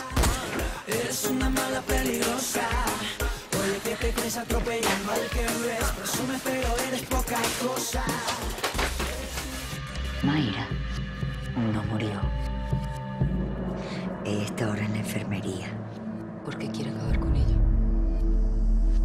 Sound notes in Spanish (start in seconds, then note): 0.1 Disparos